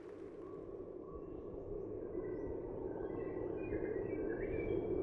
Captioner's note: muffled sounds of wilderness